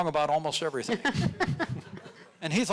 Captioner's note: audience laughing